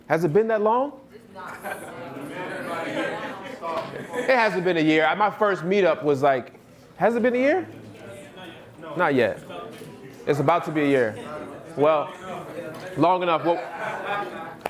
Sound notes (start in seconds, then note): 1.2 audience murmuring